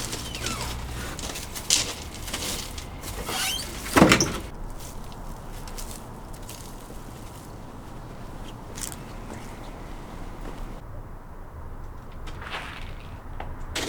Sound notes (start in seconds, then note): 0.0 gate opens; 3.2 gate slams shut